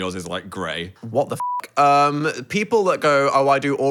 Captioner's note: beep